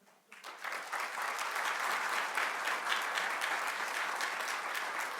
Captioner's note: audience clapping